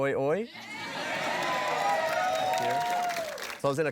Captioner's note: applause